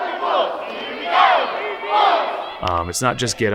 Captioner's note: cheering